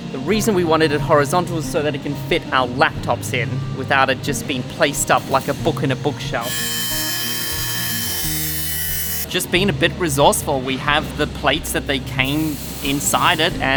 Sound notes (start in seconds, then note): 6.6 saw grinding